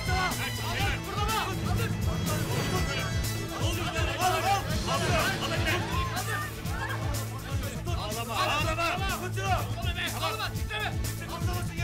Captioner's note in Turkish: Bağırışmalar